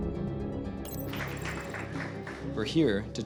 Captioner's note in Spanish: ligero aplauso